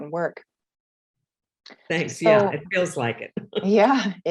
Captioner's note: laughs